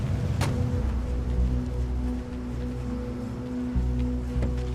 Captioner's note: door thuds